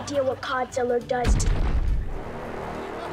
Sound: loud rumbling

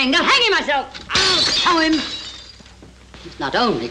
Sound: breaks glassware

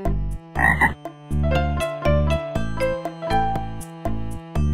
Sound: frog croaking; happy music

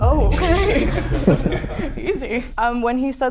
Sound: everyone laughs

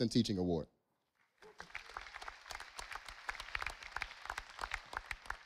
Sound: audience applauding

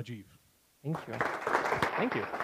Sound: applause

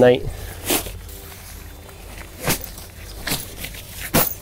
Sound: tent rustling

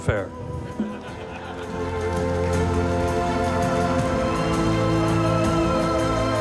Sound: audience laughing; audience applauding

